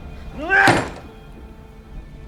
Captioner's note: angry grunt